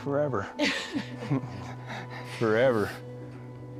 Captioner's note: laughs